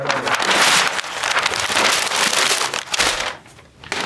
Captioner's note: paper crackling